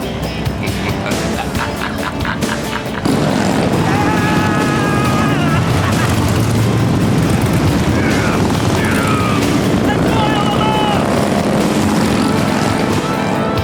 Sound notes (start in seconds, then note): 0.4 laughs